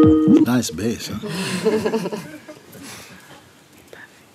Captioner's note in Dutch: gelach